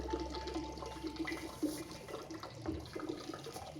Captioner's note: water pouring